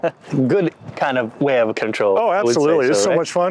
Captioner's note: laughs